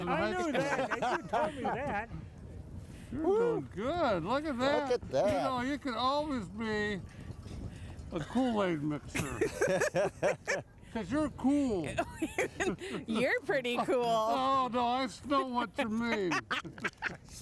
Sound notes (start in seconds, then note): 9.2 laughing